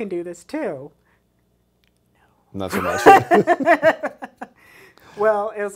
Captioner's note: both laugh